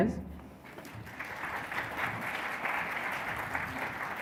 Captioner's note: audience applauds